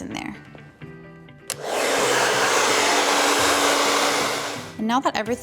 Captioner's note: blow dryer running